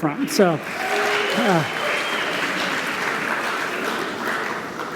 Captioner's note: applause